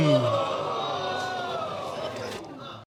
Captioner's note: audience clamoring